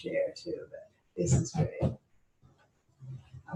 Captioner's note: speaking faintly